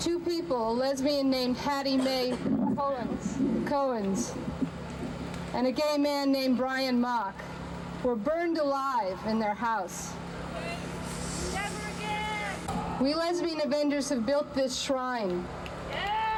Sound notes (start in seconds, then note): 12.0 shout!